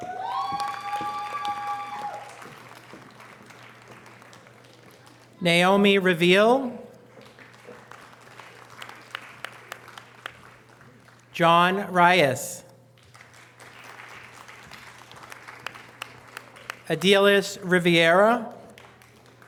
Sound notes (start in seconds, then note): 0.0 audience cheering and applause; 7.0 audience applause; 13.0 audience applause; 18.7 audience applause